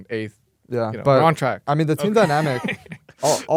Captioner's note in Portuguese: risos